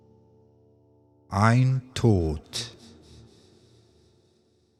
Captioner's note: german